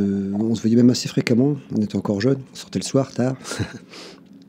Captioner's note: laughs